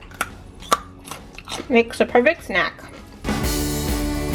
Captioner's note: crunching; upbeat music